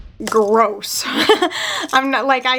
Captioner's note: laughs